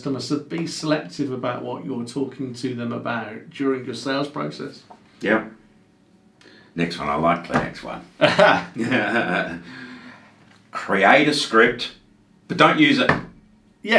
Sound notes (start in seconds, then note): 8.2 both laughing loudly